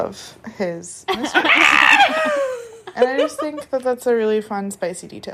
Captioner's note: shrieking